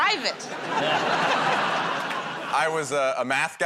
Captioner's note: laughter